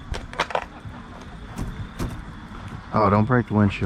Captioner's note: glass shattering